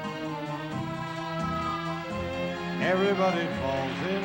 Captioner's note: applause